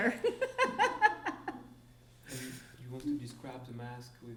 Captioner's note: laughing